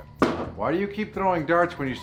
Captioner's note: thumping sound